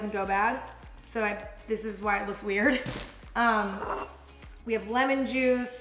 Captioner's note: chuckles